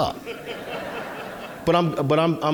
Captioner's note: audience laughing